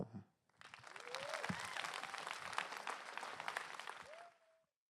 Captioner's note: applause